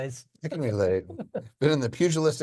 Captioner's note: cohost laughing